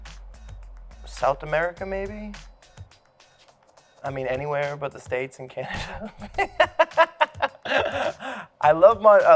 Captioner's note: laughs